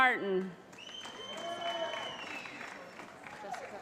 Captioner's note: cheering